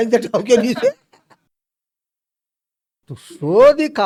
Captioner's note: laughs